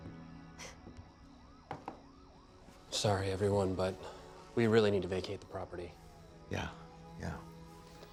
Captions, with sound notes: (soft knocking) - Sorry, everyone, but we really need to vacate the property. - Yeah, yeah.